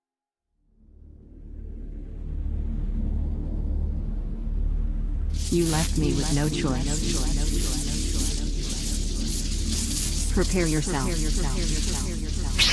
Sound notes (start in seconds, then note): 1.0 tense ambient music; 7.0 electricity crackling; 7.0 voice echoing